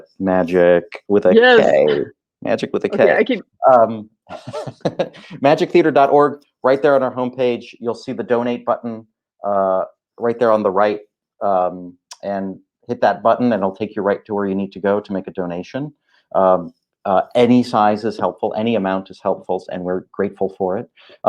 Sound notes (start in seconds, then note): 4.3 laughing